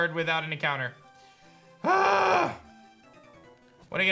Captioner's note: grunts